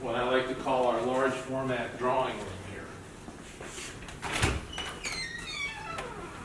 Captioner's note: door opening